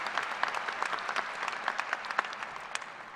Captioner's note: applause